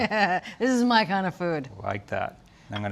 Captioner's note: chuckles